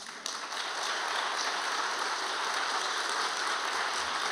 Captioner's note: audience applauding